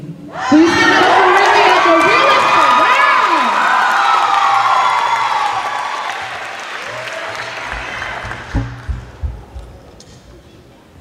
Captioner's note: cheers and applause